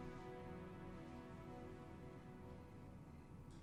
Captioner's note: none